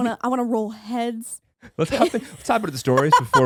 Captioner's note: laughing